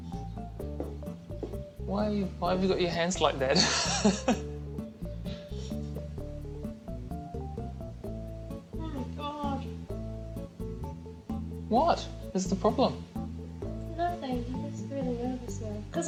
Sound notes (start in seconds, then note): 3.5 laughing